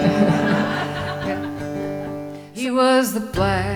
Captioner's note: laughing